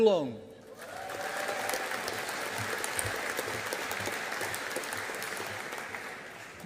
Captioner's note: audience applauding